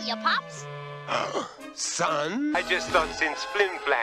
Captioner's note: gasp